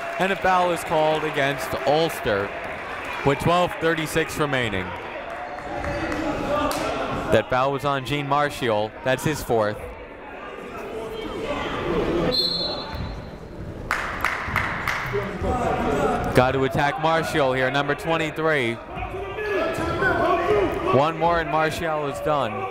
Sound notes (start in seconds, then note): 12.3 whistle blowing; 13.8 clapping